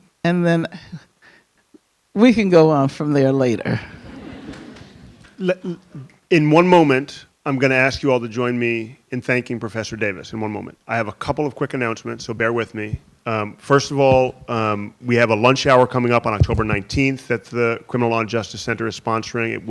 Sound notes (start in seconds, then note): 3.8 audience chuckling